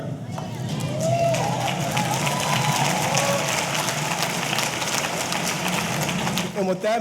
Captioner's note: audience cheering; audience applauding